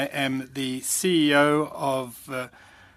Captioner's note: speaking French